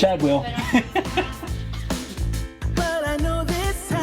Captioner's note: laughing